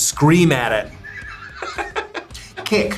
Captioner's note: laughs